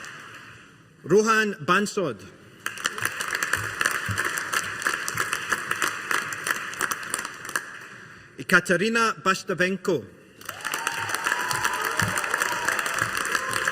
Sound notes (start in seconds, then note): 2.6 audience applauding; 10.4 audience applauding